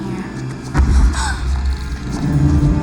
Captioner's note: gasps